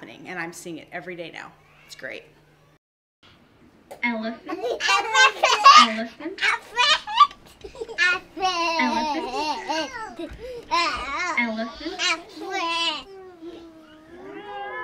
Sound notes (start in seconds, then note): 4.4 children chattering; 7.9 children imitate elephant noise